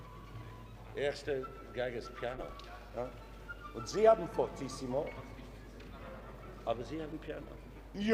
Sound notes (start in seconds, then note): 1.2 speaking foreign language